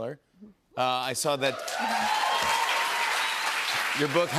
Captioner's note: cheers and applause